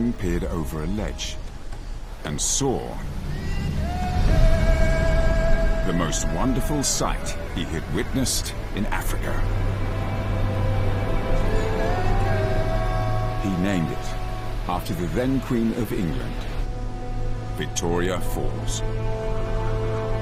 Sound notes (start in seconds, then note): 7.5 uplifting music; 7.5 water roaring; 17.2 uplifting music